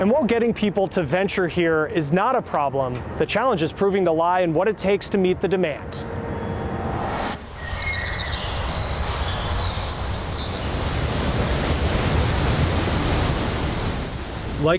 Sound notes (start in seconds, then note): 6.0 screen whooshing; 7.5 birds tweeting; 11.8 water rushing